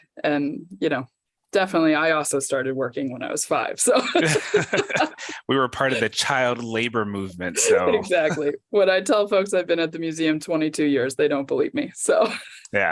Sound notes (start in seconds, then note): 3.8 both laugh